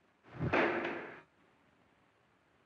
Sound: loud bang

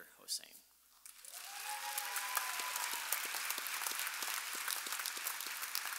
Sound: audience applauding and cheering

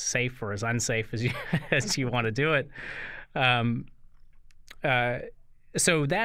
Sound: chuckle

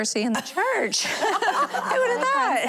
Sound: laughing

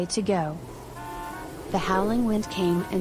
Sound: sound of wind

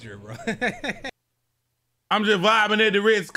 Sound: laughs

